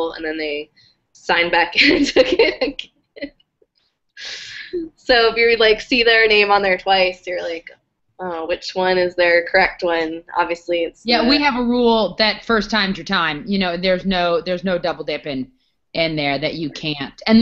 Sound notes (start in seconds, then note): 1.8 laugh